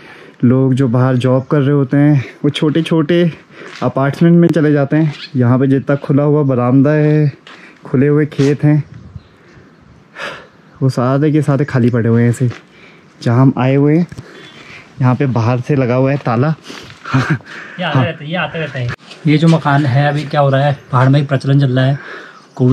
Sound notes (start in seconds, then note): 16.8 laughs